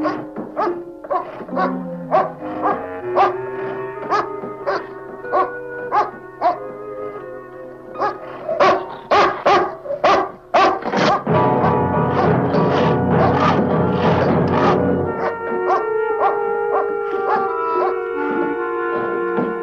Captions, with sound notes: [ Door slams ] [ Pounding ] Let me out of here!